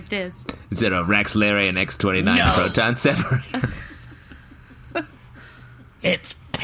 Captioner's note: thumping the table